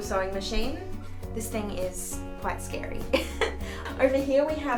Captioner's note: laughs